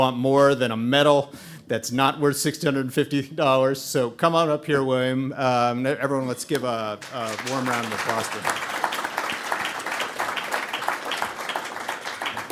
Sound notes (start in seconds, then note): 7.0 audience applauding